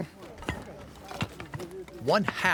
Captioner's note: clinking sound